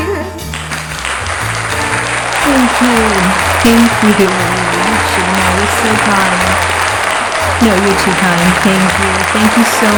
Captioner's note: wild applause